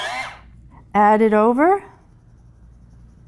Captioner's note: pencil sharpener whirs